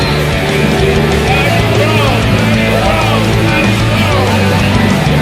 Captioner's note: cheer